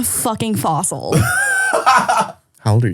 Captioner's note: laughs